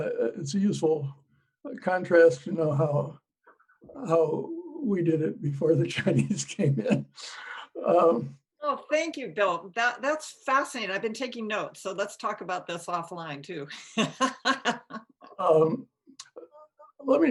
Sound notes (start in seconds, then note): 13.9 laughing